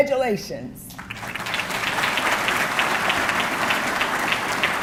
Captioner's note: audience clapping